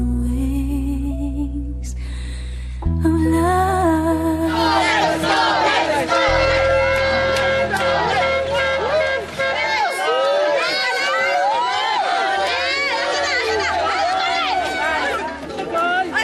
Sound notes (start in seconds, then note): 4.6 horn honking; 9.6 cheering, whooping